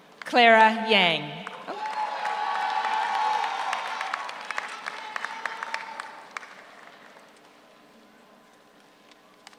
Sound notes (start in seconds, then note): 1.4 audience applauds; 1.5 audience cheers